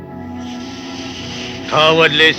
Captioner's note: snake hissing